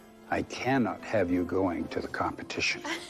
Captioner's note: laughs